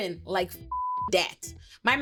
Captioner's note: beep